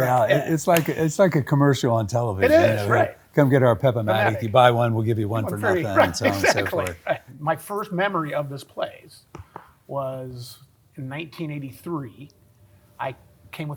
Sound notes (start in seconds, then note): 5.4 laughs